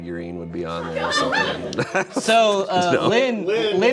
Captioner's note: laughs